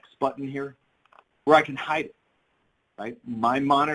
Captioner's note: mouse clicks